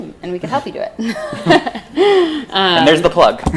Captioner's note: laughing